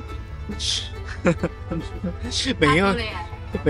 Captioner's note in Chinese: 恥笑中